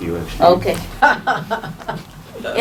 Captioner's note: ms laughs